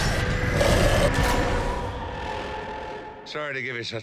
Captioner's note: screaming; explosions